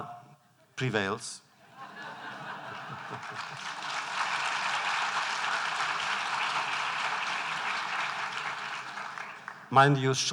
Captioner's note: laughter; applause